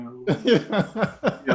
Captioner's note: laughing